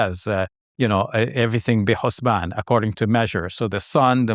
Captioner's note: speaking Arabic